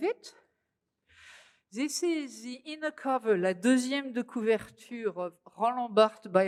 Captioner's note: speaking french